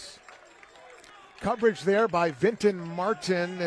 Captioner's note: applause